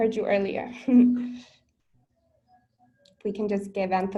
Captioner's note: laughs